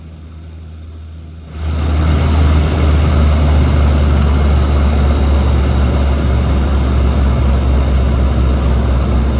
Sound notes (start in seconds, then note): 0.1 engines roaring; 1.4 engines roaring louder